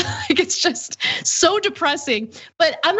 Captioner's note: laugh